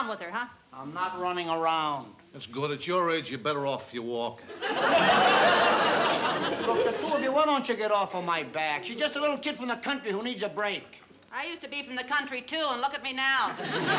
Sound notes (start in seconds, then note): 4.5 laughter